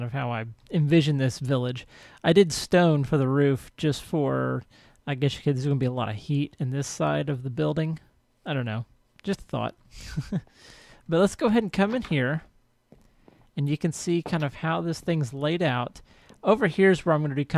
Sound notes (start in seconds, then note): 10.0 laughs